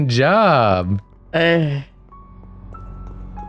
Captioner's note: relieved grunt